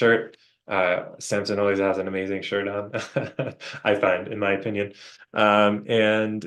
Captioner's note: chuckles